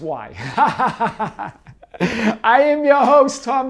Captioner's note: laughing